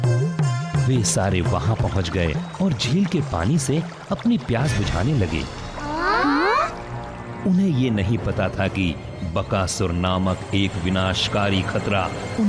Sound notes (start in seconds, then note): 6.0 gasps